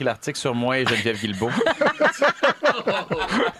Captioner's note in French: rires